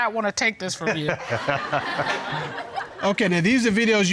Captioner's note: laughs; audience laughs